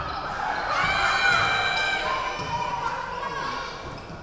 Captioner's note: yelling